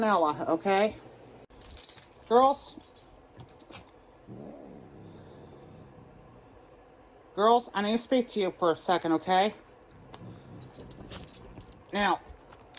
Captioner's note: Caprice growls